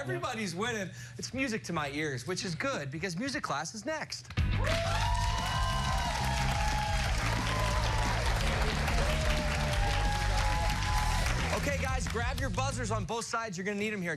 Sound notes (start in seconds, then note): 4.4 cheers and applause